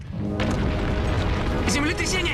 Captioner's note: rumbling